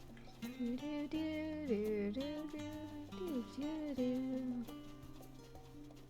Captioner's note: humming